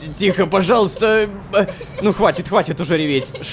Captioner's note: cries